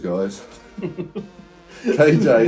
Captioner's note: laughs